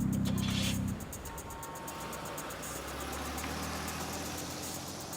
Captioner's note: car engine humming